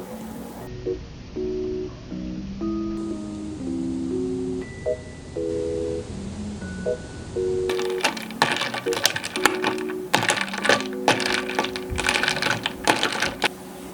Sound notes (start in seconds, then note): 7.7 stirring